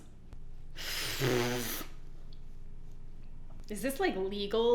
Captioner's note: blows a raspberry; exhales